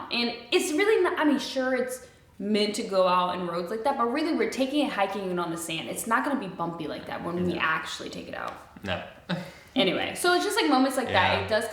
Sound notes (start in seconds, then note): 9.0 chuckles